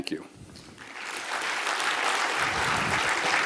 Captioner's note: applause